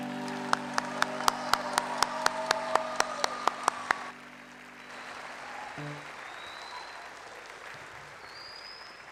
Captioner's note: applause